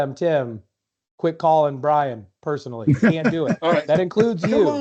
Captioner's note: laughter